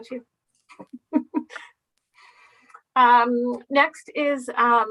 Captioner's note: laughing